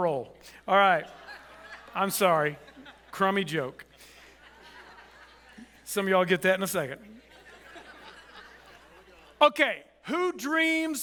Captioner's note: audience chuckles